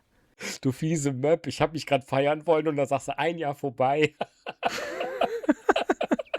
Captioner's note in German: gelächter